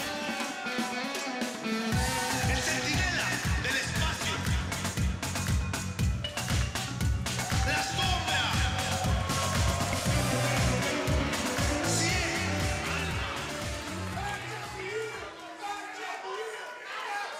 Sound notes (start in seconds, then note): 3.6 crowd cheering